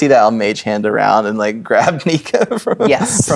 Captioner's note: chuckling; laughing